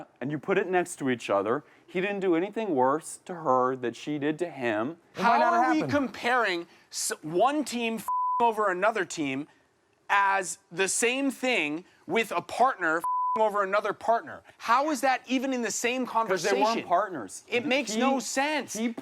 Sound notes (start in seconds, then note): 8.0 beep; 13.0 beep